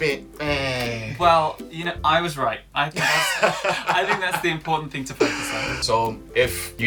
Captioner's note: laughter